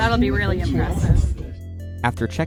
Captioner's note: flutter